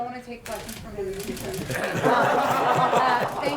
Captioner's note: laughter